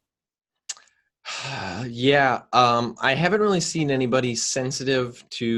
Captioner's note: exhales